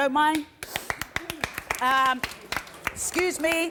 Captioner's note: applause